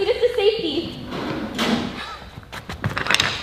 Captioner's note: door closes